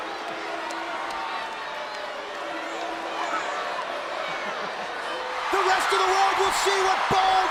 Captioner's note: applause